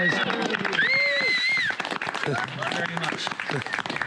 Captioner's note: group cheers